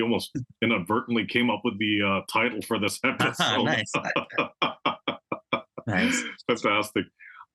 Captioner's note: laugh